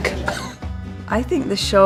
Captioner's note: laughing